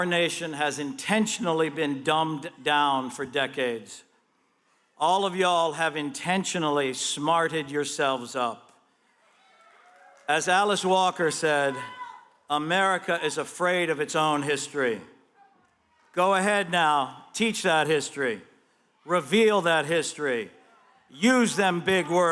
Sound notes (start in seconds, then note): 9.3 applause